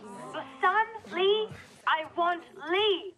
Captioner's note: whispers